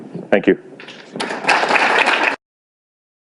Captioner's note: audience applause